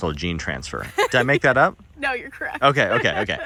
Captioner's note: laughs